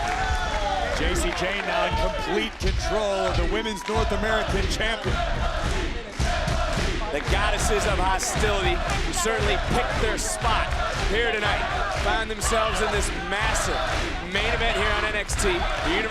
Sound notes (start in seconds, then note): 0.3 crowd cheering; 5.3 crowd chanting